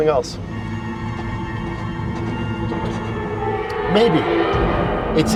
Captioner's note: deep eerie sound